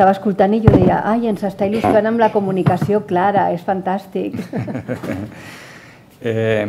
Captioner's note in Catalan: riures